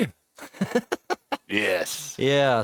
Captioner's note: laughing